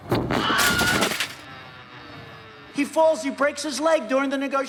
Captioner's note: speaking in a foreign language; screaming; thudding